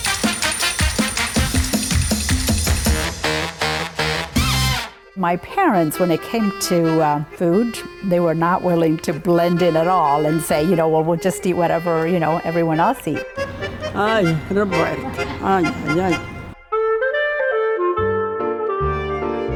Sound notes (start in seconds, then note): 14.2 speaks in foreign language; 16.8 jazzy music